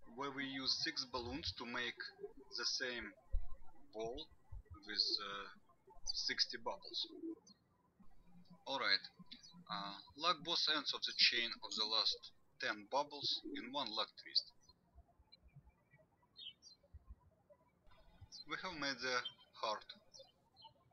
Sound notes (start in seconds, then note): 14.9 birds chirping